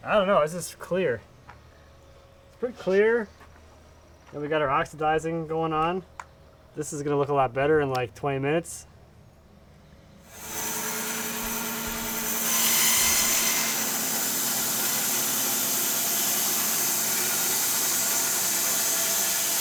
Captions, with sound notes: I don't know, this is clear. It's pretty clear. And we got our oxidizing going on. This is gonna look a lot better in like 20 minutes. (machinery buzzing)